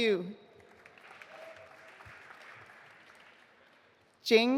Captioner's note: audience applauding